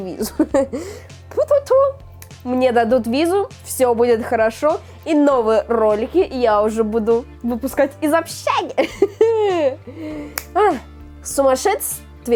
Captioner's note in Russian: смех